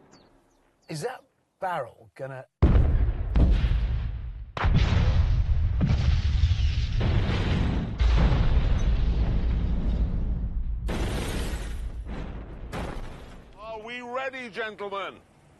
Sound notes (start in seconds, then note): 2.5 booming explosion